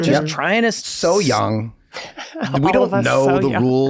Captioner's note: Glenn chuckles